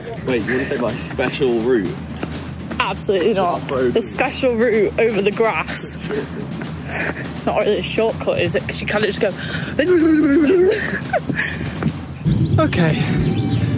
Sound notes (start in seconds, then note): 8.7 imitates electric scooter wobbling